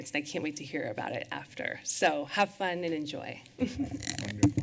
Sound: chuckles

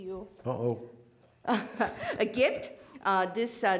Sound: laughing

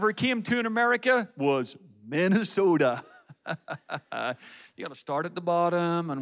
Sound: laughs

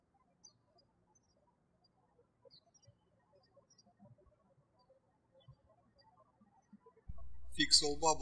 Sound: birds chirping

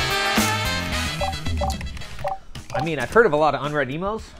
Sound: computer beeping

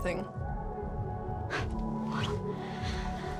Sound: scoffs

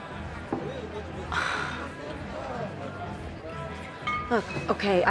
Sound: sighs

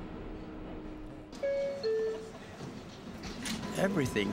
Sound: bell chimes; voiceover

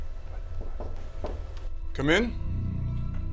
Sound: door knocks

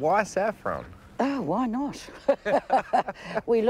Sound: both laugh

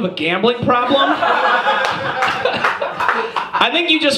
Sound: audience laughs

